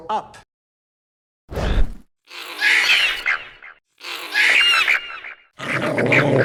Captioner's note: chirping and screeching; growling and chirping